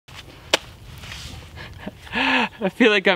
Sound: slicing

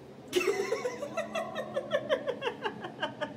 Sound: laughter

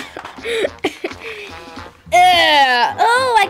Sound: laughter

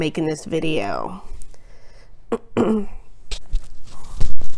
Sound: clears throat

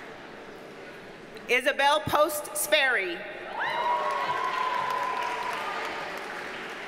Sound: audience cheers and applauds

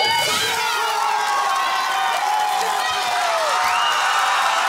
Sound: cheering and applause

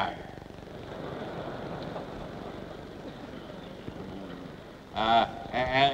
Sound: laughter

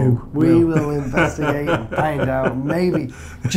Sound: laughing

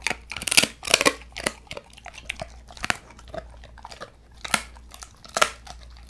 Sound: bone cracking sound

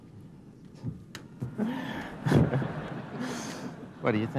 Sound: laughter

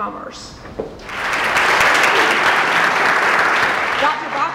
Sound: applause

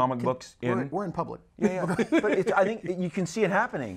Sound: laughs

